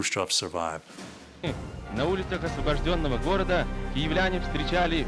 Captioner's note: newsreel announcer speaking Russian